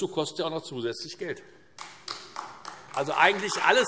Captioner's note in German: Beifall Freie Demokraten und vereinzelt AfD